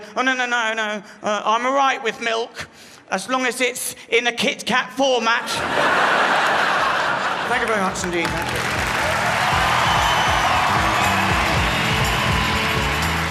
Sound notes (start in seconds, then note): 5.4 crowd laughs; 10.2 crowd cheers and applauds